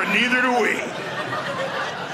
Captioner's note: audience laughing